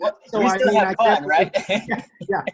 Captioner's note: laughs